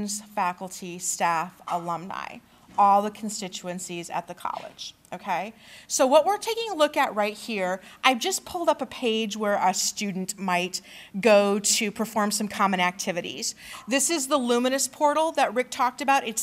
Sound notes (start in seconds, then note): none